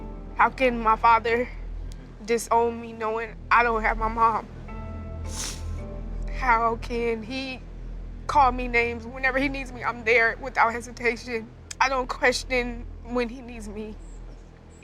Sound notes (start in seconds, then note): 5.2 sniffles